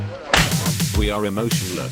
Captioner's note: ass-slapping sound